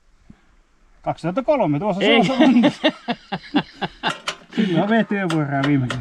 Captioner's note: laughs